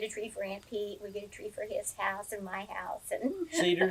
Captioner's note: laughs